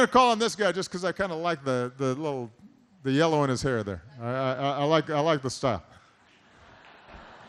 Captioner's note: laughter